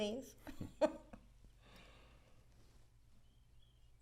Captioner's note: both chuckling